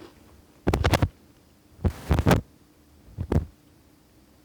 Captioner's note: lav microphone rustling